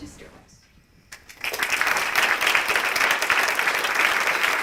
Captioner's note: applause